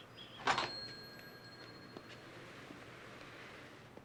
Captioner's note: door dinging